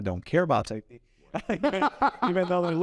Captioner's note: laughs